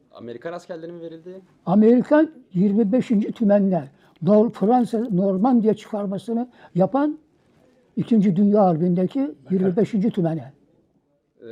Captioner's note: foreign language